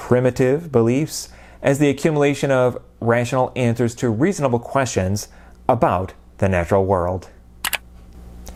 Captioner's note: mouse click